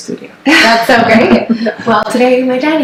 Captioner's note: laughs